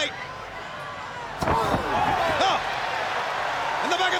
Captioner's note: wrestlers grunting; body thudding